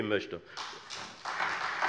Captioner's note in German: Beifall Freie Demokraten, vereinzelt SPD, AfD und DIE LINKE